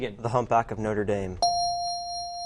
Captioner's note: dinging